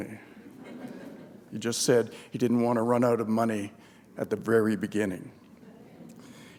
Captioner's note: chuckle